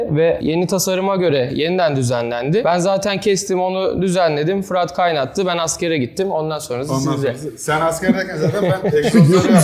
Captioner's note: laugh